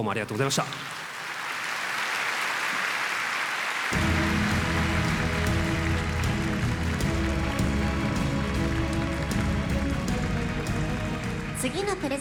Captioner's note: applause